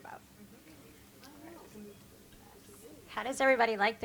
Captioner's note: people chatter